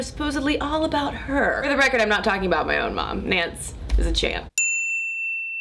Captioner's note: bell chimes